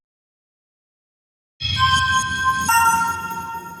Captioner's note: bells chime